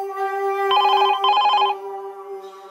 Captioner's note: phone ringing